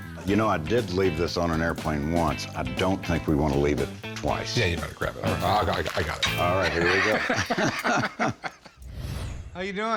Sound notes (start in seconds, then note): 6.9 both laugh